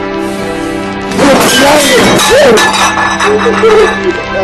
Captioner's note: dishes clatter; sobs